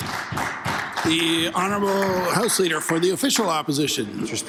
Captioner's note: some Applause